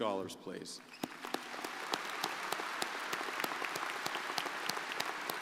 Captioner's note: crowd applauding